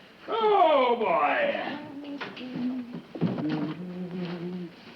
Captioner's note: Joan humming music